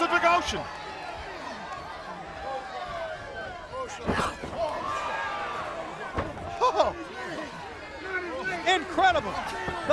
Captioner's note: crowd chatter